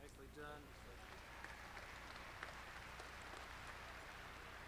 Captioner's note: audience clapping